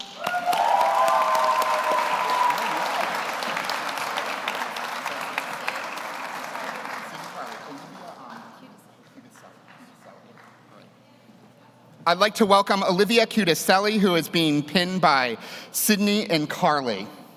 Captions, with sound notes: (audience cheers) (audience applauds) I'd like to welcome Olivia Cudecelli, who is being pinned by Sydney and Carly.